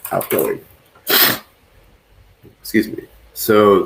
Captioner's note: sniffs